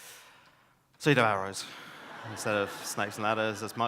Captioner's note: audience laughs